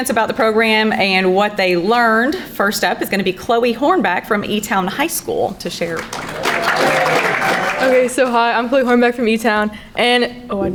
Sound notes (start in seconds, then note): 5.8 crowd applauding